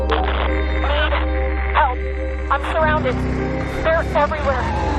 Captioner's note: woman on radio